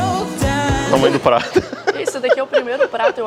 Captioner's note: laughs